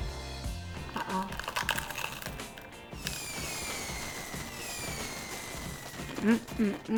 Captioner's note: taco crunching; fireworks exploding